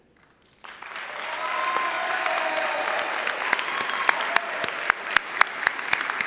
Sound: audience applauding and cheering

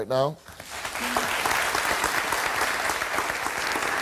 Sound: audience applauds

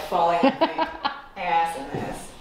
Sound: laughs

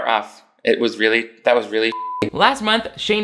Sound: beep

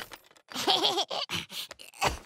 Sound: laughing

